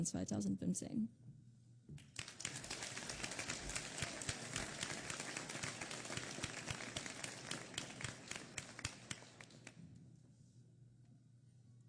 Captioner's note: applause